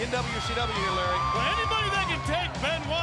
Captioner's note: crowd cheering